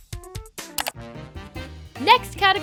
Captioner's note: clicking